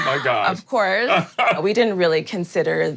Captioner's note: laughs